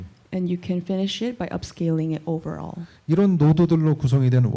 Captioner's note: none